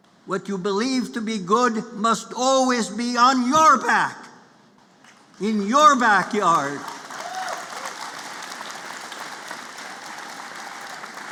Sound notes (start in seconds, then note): 6.5 applause